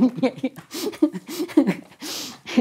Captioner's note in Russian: смеются